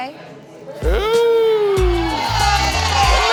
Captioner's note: cheering